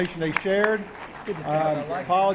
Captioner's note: applause